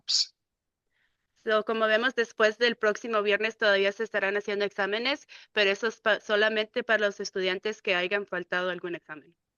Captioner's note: speaking in Spanish